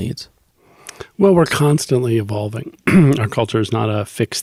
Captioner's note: clears throat